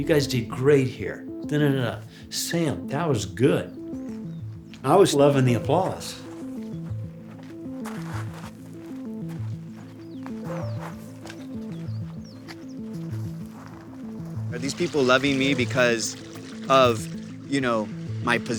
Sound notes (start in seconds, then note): 10.0 birds chirping; 10.0 gentle pensive music